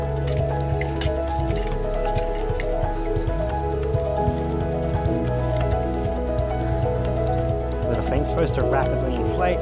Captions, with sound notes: (water running) The thing's supposed to rapidly inflate.